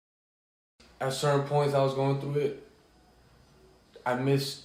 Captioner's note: male Voice